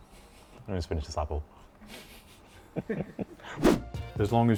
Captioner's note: chuckles